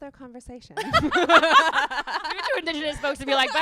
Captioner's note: laughing